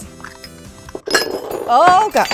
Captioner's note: dishes falling